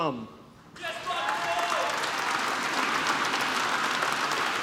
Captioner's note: applause